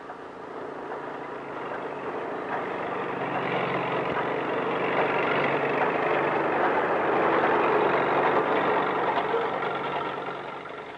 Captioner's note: tractor noises